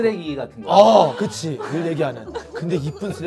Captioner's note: people murmur at the blunt comment